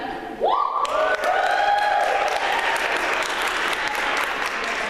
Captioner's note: applause